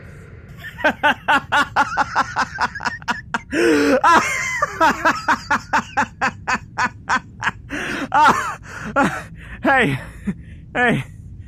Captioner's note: Takumi absolutely fucking dies from laughter